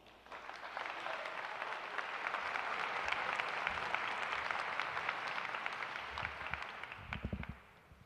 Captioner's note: applause